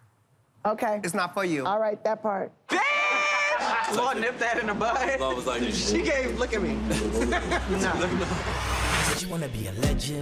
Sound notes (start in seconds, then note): 3.3 laughter; 6.8 laughter